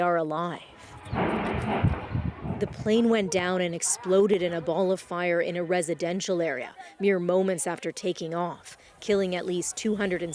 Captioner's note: speaking alternate language